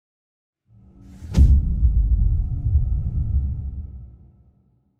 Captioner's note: dramatic sound